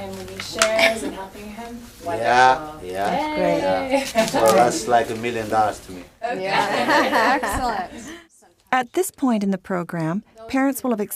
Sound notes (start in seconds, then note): 6.3 laughs; 8.5 voiceover